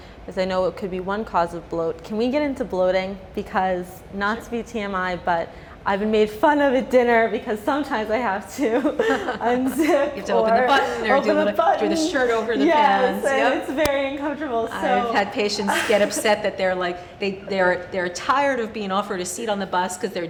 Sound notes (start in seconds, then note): 8.7 laughing